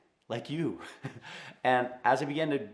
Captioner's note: laughing loudly